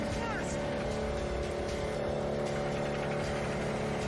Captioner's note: woodchipper groans